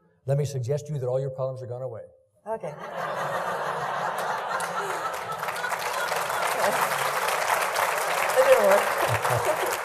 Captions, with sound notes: - Let me suggest to you that all of your problems are gone away. - Okay. (laughing) (clapping) - It didn't work.